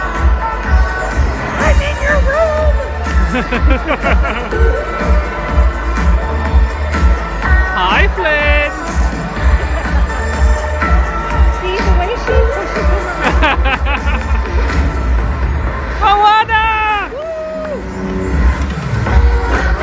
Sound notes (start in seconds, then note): 3.2 laughing; 4.9 upbeat music; 13.0 laughing; 16.1 cheers